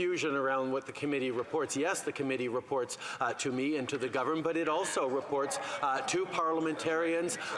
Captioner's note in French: voix de l'interprète